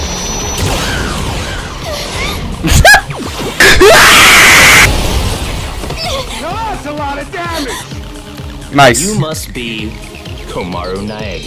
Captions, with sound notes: [Monokuma screaming] Now that's a lot of damage Nice You must be Komaru Nagei